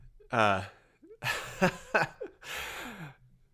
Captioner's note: laughs